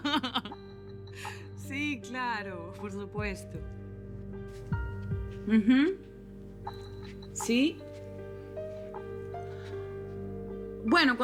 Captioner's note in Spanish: Risas